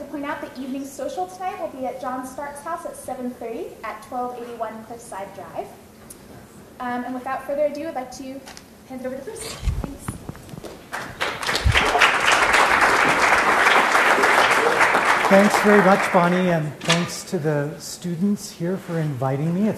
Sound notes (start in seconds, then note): 10.8 applause